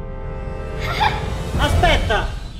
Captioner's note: laughs